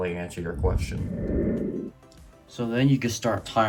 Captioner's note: transition sound effect